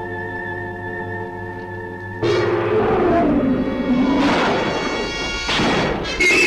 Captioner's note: creature growling